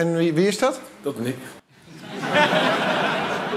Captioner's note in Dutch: gelach